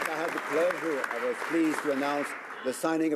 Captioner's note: some Applause